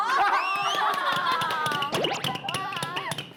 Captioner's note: applause